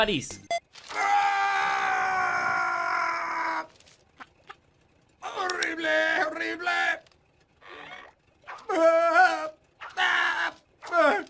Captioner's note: screams Horrible in Spanish :u